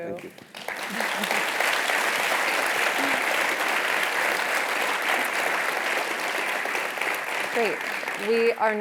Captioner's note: applause